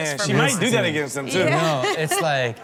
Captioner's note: laughs